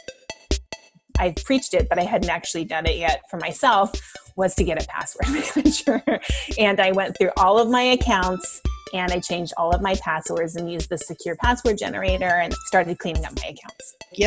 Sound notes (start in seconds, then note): 5.2 laughing